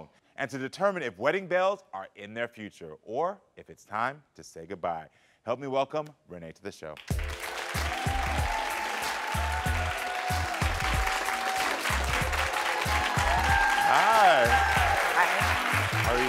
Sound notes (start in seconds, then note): 7.0 audience applauds; 7.1 mellow music